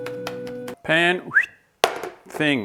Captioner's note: whistle